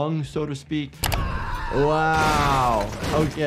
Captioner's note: Spider-Man screams